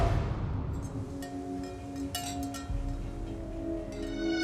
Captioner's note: wind chimes jingling; sharp string tone